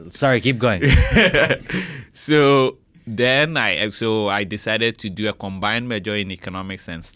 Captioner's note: laughs